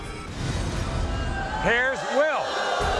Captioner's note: crowd shouting